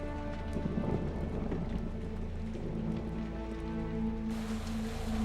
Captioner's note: thunder rumbles